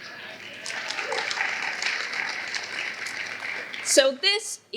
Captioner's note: applause